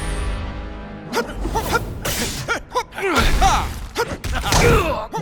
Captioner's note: wincing